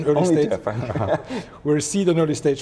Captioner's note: both laugh